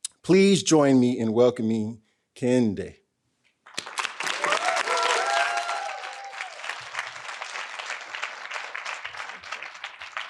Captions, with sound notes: Please join me in welcoming Kehinde. (audience applauding) (audience cheering)